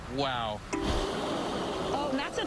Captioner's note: whale blowing